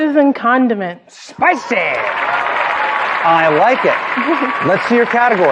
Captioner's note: applause